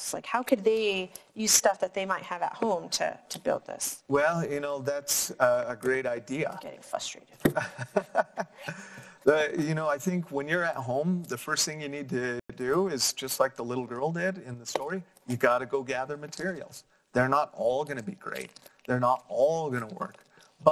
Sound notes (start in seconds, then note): 7.6 laughing